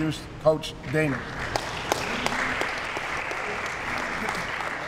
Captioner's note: applause